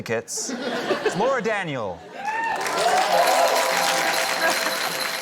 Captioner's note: cheering, applause